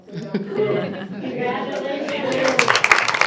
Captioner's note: group laughs; group applauding